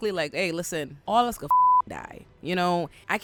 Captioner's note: beep